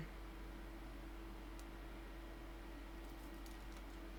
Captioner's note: faint connecting noises